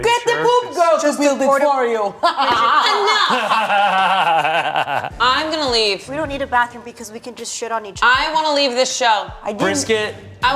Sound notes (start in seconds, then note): 2.5 cackling; 3.2 laughing